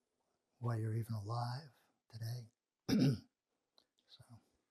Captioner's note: clears throat